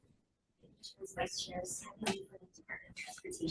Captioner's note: faintly speaking